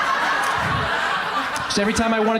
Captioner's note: crowd laughs